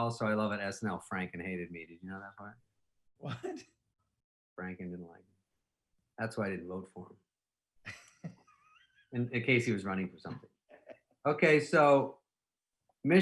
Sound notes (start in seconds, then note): 7.9 laughing